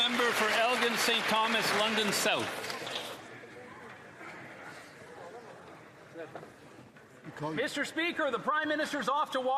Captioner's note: applause